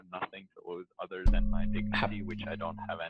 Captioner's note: knocks mic